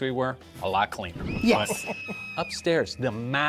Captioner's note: screaming